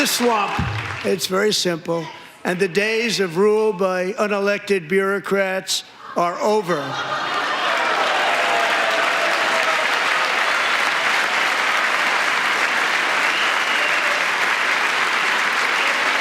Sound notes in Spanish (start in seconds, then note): 4.8 aplausos